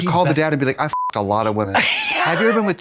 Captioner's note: beep